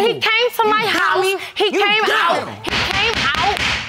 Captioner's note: gavel banging